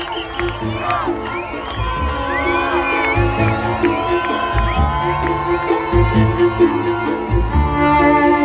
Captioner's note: applause